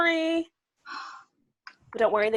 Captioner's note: huffs